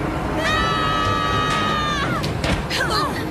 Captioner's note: all yelling